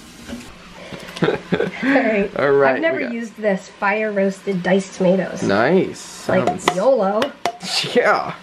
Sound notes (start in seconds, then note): 0.9 laughs; 7.6 laughing